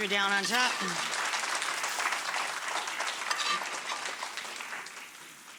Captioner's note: audience applauds